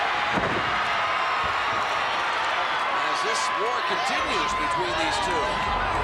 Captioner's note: applause